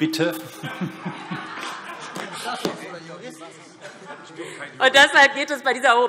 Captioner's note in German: Heiterkeit - Zuruf Minister Tarek Al-Wazir